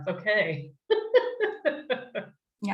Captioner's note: chuckles